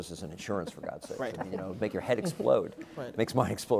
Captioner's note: laugh